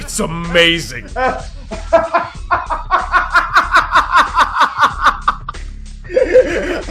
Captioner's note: more maniacal laugh live on camera